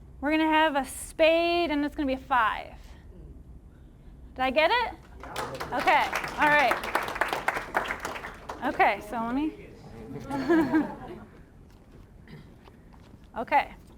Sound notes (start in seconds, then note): 5.0 applause; 10.0 audience chuckling